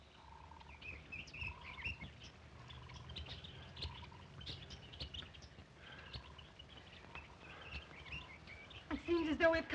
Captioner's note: birds chirp